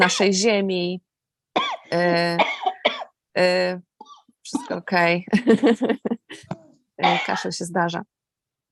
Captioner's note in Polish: śmiech